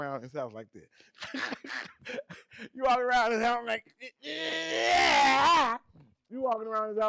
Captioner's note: yells while laughing